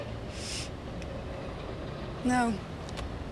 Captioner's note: sniffs